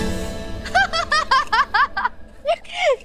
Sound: laughing

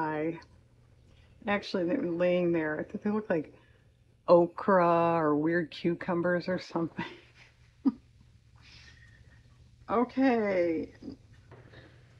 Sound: laughs

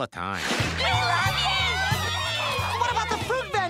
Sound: all cheering

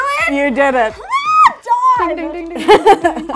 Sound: squeals

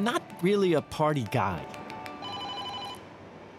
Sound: beeping

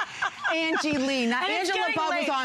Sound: laughter

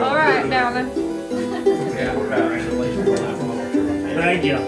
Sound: group chatters

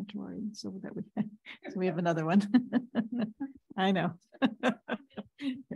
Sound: laughs

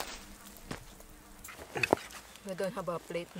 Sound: footsteps

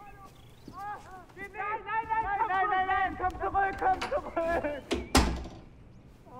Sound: airmen continue talking in German

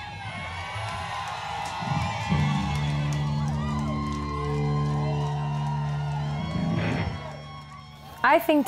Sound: applause

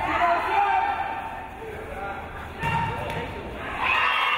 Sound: crowd cheering

